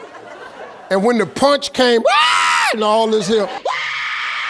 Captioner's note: screaming